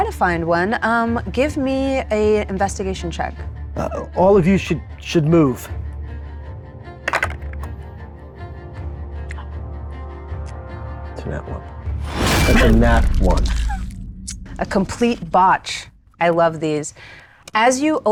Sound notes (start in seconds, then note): 7.0 dice rolling